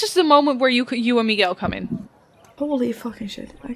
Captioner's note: dice thumps